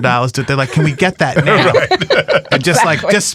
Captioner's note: all laughing